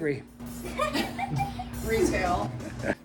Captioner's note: all laugh